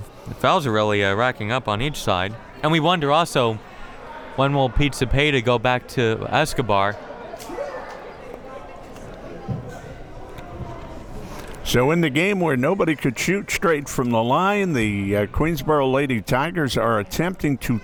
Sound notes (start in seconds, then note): 7.8 crowd members talking